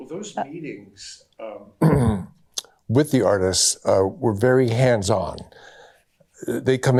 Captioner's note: clears throat